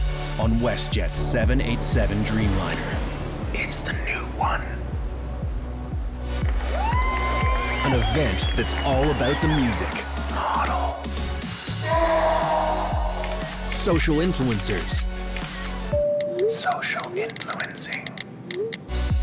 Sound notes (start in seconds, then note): 11.8 scream